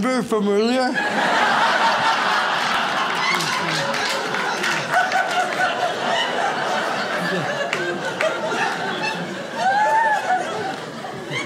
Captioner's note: audience laughs